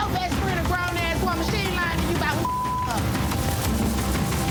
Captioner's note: beep; suspenseful music